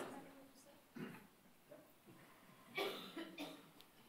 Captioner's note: whispering